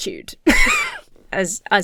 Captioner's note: laughs